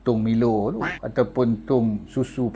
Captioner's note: quack!